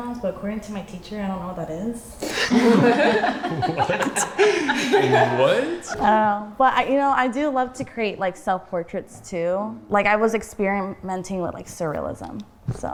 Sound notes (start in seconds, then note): 2.4 everyone laughing